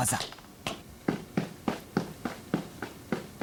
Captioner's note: tapping rhythmically